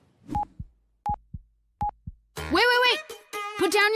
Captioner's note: beep